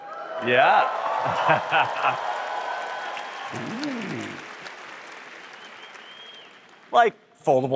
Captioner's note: applause